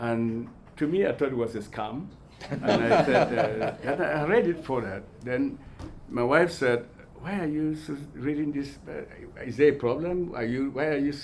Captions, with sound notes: And to me, I thought it was a scam. (all laughing) And I read it for that. Then my wife said, "Why are you reading this? Is there a problem?